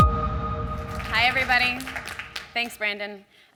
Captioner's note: applause